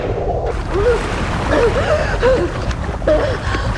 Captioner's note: gasping